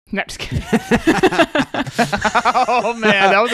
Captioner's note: laughing